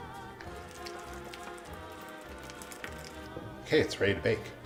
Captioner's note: rapid mixing